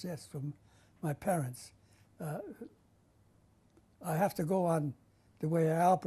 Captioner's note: pauses for 3 seconds